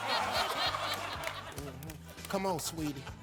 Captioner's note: audience laughing